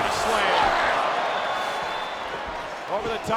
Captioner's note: crowd cheering